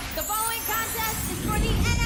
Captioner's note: bell ringing